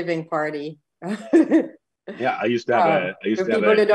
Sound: laughs

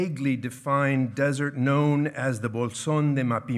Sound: speaking in foreign language

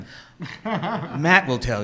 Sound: laughing

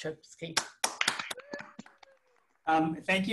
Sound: hands clapping

